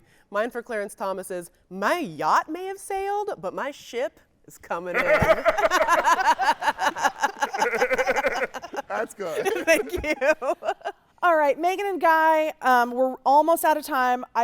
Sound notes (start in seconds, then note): 4.9 laughing